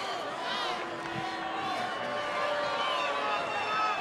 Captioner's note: crowd booing